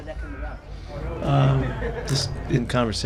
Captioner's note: reporters laughing